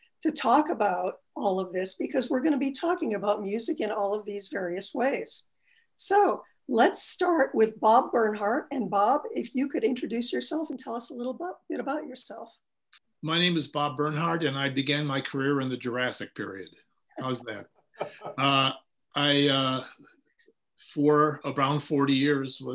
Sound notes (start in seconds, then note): 18.0 laughing